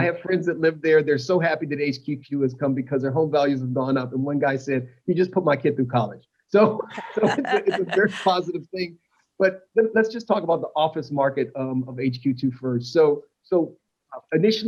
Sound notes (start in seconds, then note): 7.0 laughter